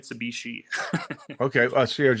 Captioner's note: laughing